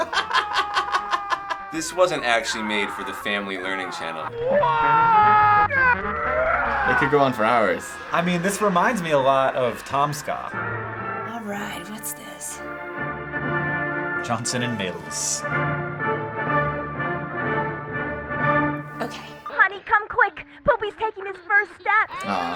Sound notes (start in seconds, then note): 0.0 laughs heartily; 4.4 alternating screams; 12.6 dramatic classical music